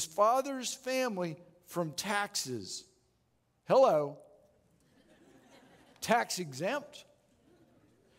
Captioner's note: audience Laughing